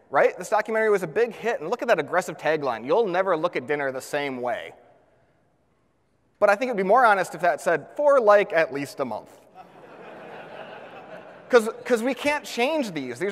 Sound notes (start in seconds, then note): 9.6 audience laughs